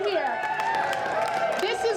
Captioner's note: audience applauding